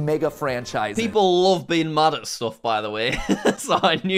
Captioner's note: laughing